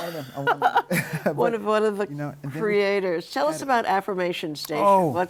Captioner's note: laughs